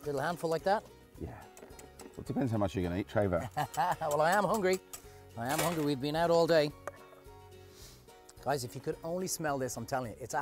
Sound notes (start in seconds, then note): 3.4 laughs